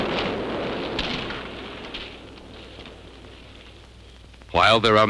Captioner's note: fire crackling